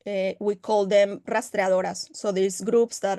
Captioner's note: speaking Spanish